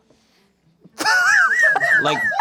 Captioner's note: laughing